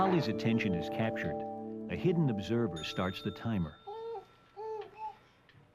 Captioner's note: ding